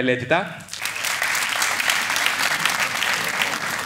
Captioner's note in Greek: ελαφρύ χειροκρότημα